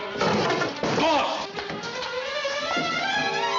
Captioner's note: clattering